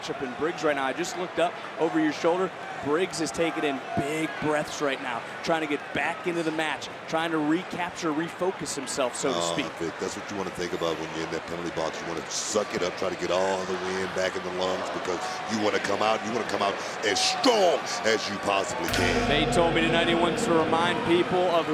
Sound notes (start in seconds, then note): 18.8 gong rings